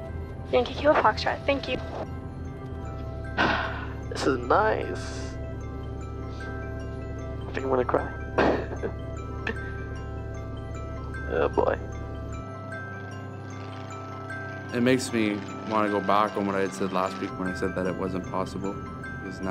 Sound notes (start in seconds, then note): 3.4 exhales; 8.4 chuckles; 12.7 airplane rumbles